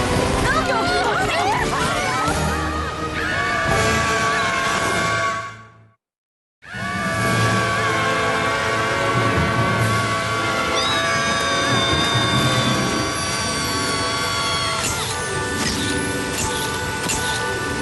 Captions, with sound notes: (panicked shouts) (screams) (screams) Pinkie: Wheeeee! (camera shutter clicks)